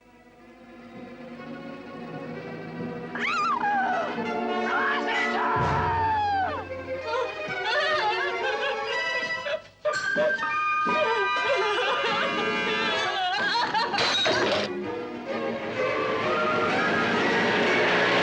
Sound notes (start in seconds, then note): 4.6 woman screaming; 7.0 sobbing; 14.0 lamp shatters